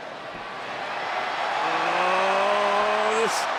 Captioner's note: audience cheers